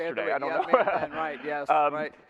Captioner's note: laughs